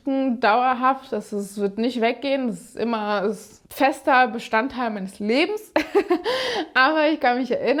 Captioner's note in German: gelächter